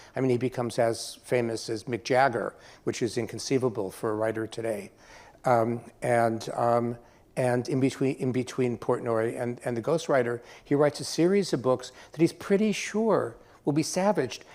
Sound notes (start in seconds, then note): none